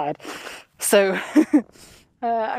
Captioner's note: chuckle